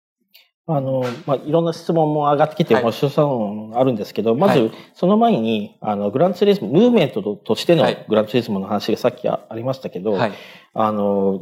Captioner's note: speaking japanese